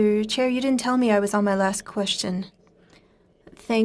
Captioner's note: speaking French